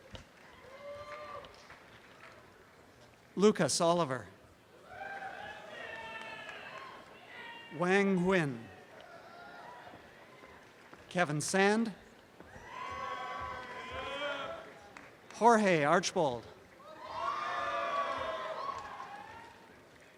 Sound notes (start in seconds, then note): 4.8 audience cheering; 16.8 applause and cheering